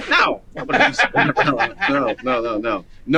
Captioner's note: man laughing